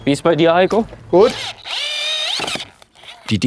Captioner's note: whirring